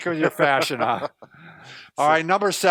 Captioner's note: laughs